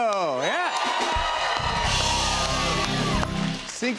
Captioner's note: cheers and applause